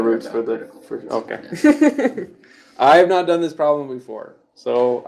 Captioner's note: laughs